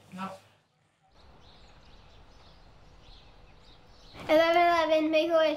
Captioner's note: birds chirping